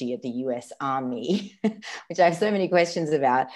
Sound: laughs

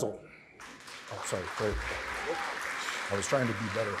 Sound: applause

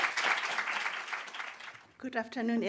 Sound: audience applauding

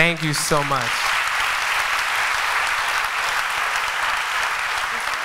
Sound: applause

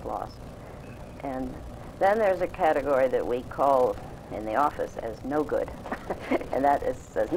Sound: laughs

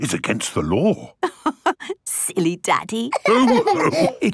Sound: laughing

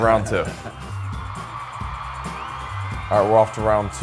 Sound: crowd cheering

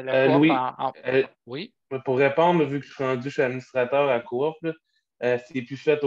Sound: speaking foreign language

